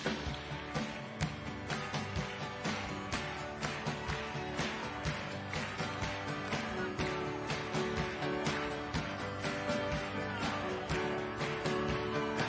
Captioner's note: cheering